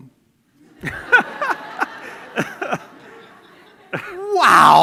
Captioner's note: laughter